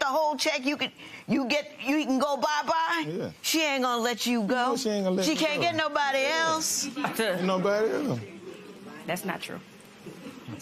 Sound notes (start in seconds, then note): none